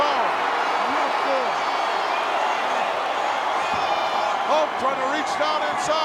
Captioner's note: crowd cheering